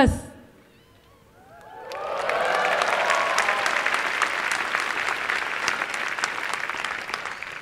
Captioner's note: applause